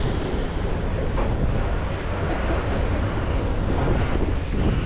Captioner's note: wind blowing